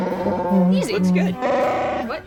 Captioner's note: Chewbacca sounds